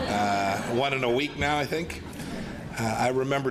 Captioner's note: laughter